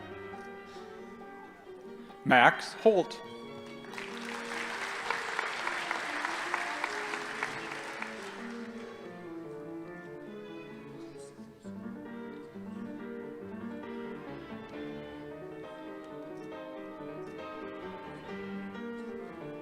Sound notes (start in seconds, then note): 3.6 audience applauding